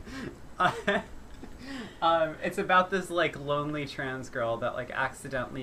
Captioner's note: laughter